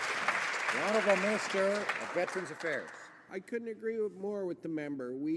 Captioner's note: some Applause